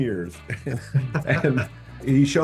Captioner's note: both chuckling